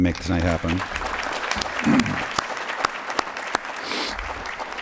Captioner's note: applause